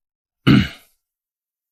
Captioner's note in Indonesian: batuk